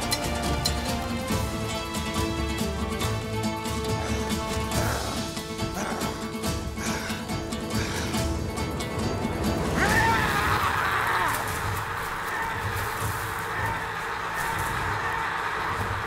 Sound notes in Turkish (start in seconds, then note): 4.1 Noyan hırlama sesi; 13.5 Müzik - Gerilim